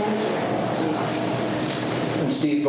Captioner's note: faintly speaking